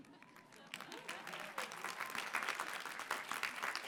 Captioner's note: clapping